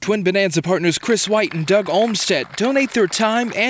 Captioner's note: audience applauding